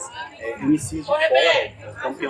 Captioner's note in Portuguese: barulho da plateia se dispersando ao fundo